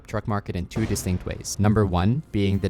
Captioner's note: graphics booming